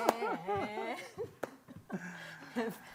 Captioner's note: laughter; chuckles